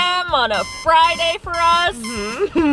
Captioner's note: alarm beeping